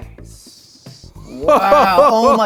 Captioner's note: Rhett laughs